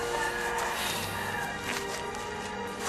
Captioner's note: sighs